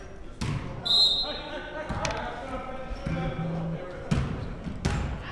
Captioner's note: whistle blows